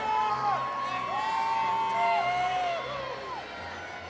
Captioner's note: audience cheering